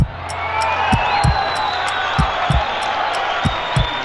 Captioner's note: cheering